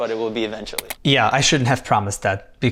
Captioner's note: button clicking